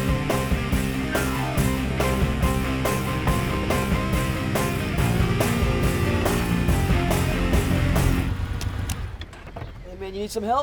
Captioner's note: engine stops